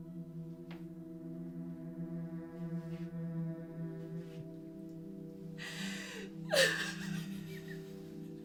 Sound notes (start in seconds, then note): 6.4 crying